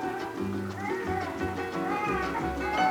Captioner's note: baby crying